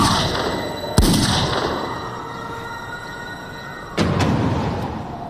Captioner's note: sirens approaching